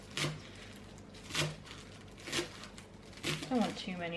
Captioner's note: chopping